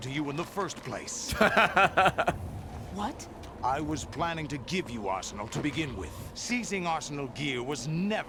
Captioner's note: laughs